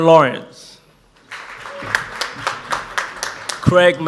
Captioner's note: audience applauds